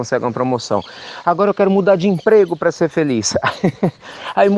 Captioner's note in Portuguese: Risos